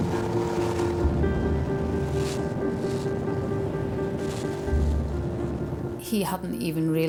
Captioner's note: water spraying; uplifting instrumental music; wind swooshing; lifeboat engine whirring